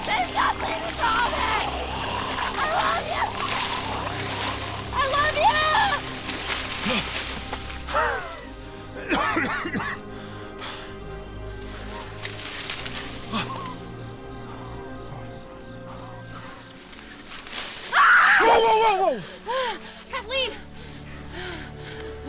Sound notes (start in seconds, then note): 8.1 Theo coughing; 17.8 Kathleen screaming